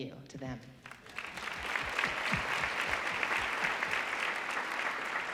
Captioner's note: audience applauding